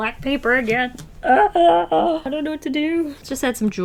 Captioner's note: eurghh!